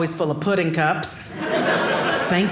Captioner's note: audience laughing